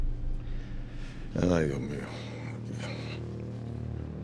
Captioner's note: speaking spanish